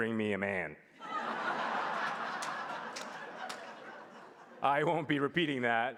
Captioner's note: laughs